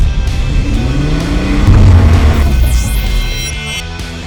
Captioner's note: engine revving